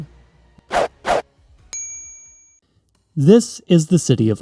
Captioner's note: swoosh, swoosh, ding